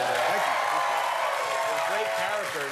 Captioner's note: cheers and applause